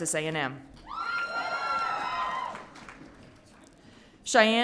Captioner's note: audience cheering